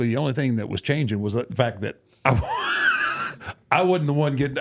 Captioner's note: laughs